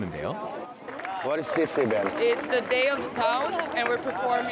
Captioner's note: clap